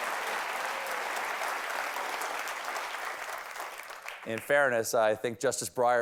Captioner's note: cheers and applause